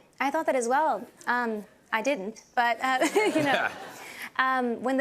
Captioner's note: laughter